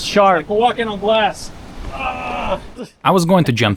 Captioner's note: exclaiming